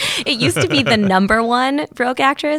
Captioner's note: laughing